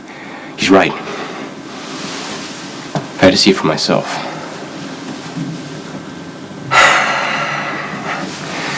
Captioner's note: sighs